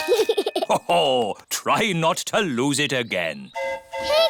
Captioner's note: giggles; train horn hooting